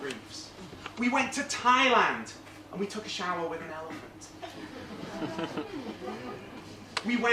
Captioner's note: laugh